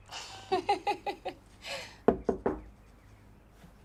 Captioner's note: Anna laughs; knocking